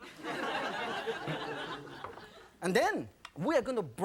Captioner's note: audience laughing